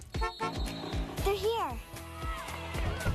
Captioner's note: Enclave honks